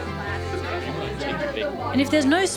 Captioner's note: all chatter